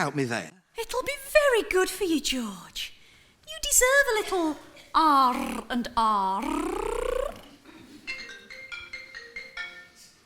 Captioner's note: Pauline's mobile rings